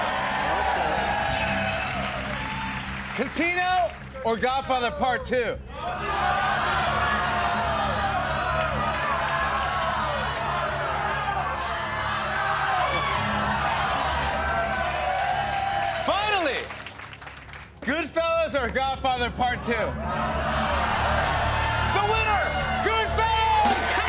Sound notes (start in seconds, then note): 0.0 cheers and applause; 5.8 audience shouting "Casino" and "Godfather"; 13.4 cheers and applause